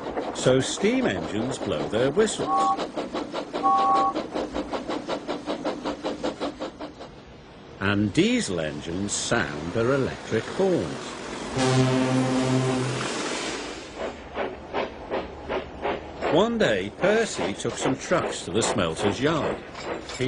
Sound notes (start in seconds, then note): 3.6 james blows whistle; 11.5 salty honks diesel’s horn